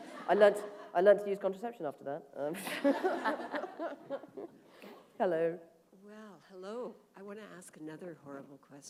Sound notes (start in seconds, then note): 2.6 laughter